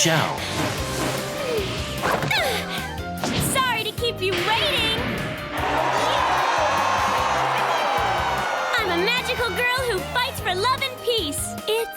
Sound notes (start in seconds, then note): 2.0 grunts; 5.5 audience cheering